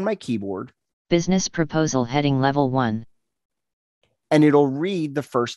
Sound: computer Voice

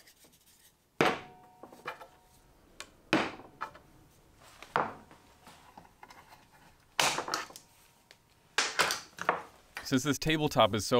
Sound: mallet being used

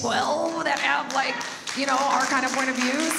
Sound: audience applauds

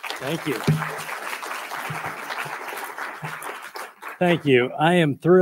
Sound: applause

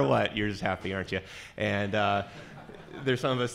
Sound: laughing

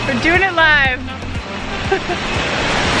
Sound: water splashing; laughter

